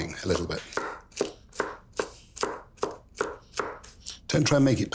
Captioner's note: knife chopping